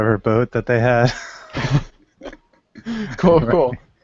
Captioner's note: laughter